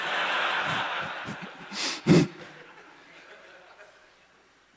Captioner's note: laughter